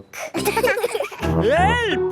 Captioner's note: laughing